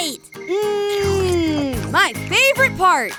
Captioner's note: eating sounds